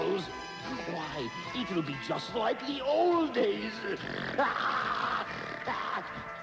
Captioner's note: snort